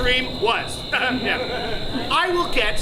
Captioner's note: laughs